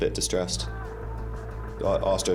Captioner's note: casualty groans